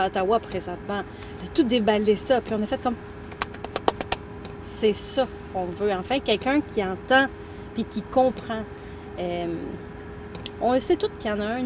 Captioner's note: clap hands